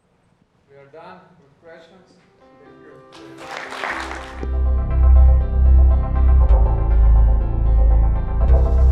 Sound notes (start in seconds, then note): 3.1 applause